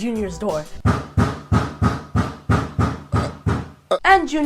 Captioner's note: LOUD banging